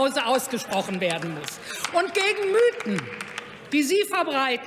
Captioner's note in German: Beifall bei Abgeordneten der SPD